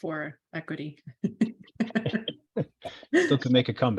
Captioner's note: laughter